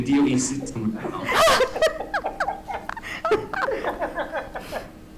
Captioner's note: members laughing